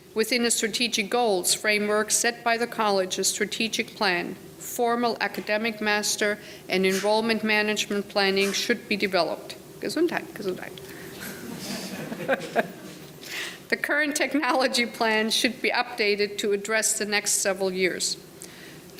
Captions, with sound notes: Within a strategic goals framework set by the college's strategic plan, formal academic master, and enrollment management planning should be developed. Gesundheit, gesundheit. (laughing) The current technology plan should be updated to address the next several years.